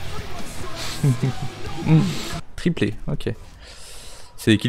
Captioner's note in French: Rire